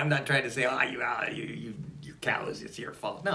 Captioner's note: laughs